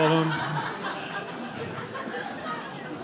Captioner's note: audience laughing